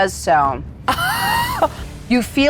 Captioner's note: laughs